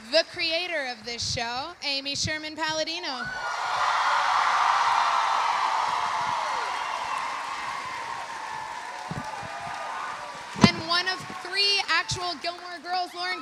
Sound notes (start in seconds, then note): 3.2 audience cheering; 3.4 audience applauding